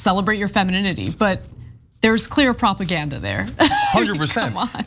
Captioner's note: laugh